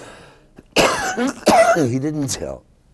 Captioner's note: coughing